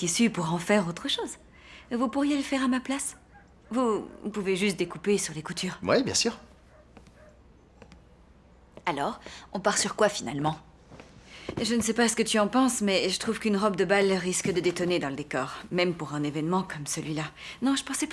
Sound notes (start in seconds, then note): none